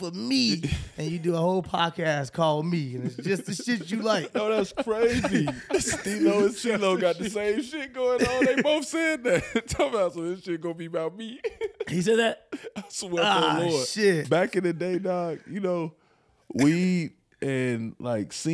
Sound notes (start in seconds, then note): 5.2 laughing; 9.3 chuckles; 11.4 laughing